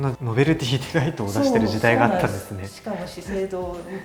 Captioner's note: laughs